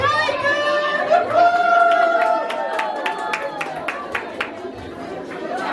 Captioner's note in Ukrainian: оплески